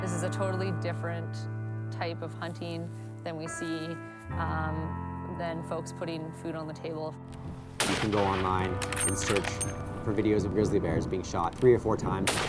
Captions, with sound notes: - This is a totally different type of hunting that we see than folks putting food on the table. (rifle shot booming) (bullet casing tinkling)